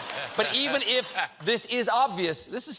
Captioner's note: laughter